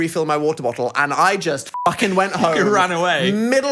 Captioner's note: beep